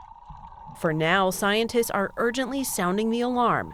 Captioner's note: voice-over